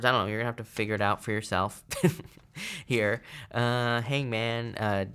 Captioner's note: chuckles